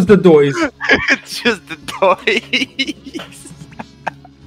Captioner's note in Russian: Переходит плавно в хихиканье